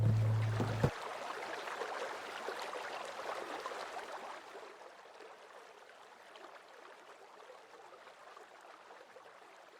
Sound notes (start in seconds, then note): 1.6 water splashing